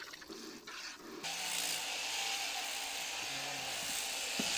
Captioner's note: noise of shearing clipper